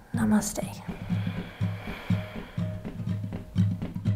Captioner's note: exhaling deeply; upbeat music